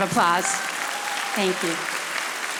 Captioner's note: audience applauding